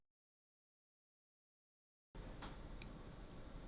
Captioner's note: silence